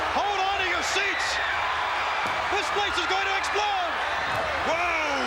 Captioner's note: applause